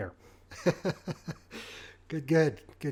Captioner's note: laughing